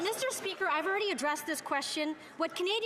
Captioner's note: some Applause